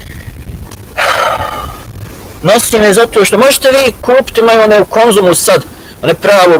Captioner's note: sigh